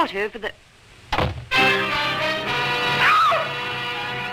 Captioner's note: door thuds; dramatic music; Lois shrieks